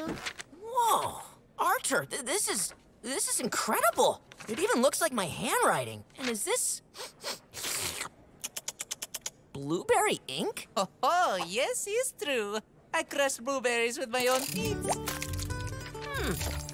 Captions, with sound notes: Whoa, Artur, this is- this is incredible. It even looks like my handwriting. And is this... [sniffing] blueberry ink? Oh, yes, it's true. I crushed blueberries with my own feet. Hmm.